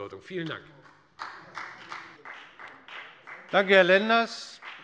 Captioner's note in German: Beifall bei der FDP